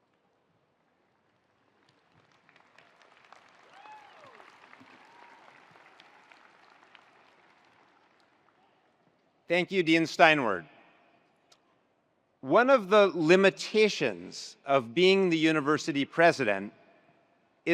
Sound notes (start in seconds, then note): 1.3 attendees applauding; 3.5 attendees cheering